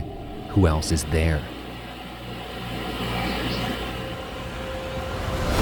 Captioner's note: muffled whisper